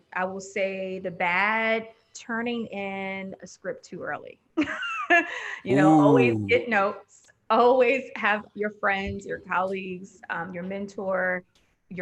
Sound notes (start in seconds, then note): 4.6 laughing